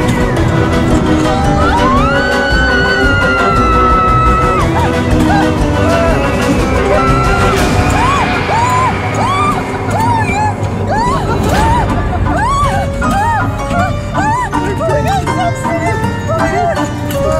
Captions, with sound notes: [screaming] Oh my God, stop spinning!